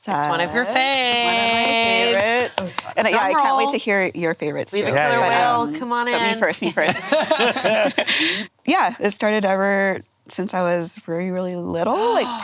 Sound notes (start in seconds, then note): 6.2 all laughing